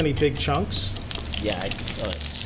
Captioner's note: mashing potatoes